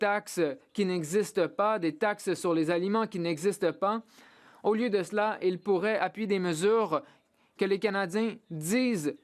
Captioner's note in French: voix de l'interprète